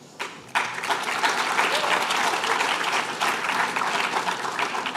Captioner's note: applause